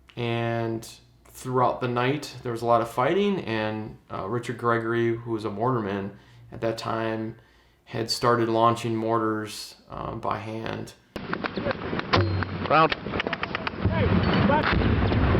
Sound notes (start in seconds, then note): 11.2 launcher clanks; 11.2 guns firing